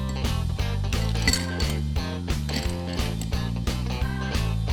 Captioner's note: ice cubes clinking